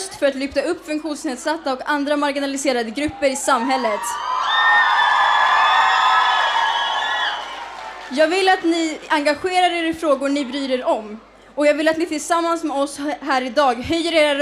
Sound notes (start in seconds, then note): 3.0 audience cheering